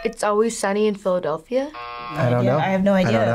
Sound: bell rings; buzzer rings; buzzer rings

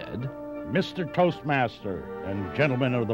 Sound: voiceover

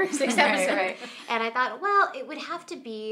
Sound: all laughing

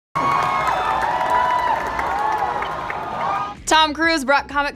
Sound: crowd cheering

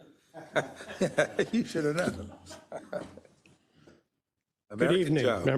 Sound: laugh

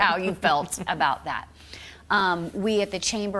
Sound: laughing

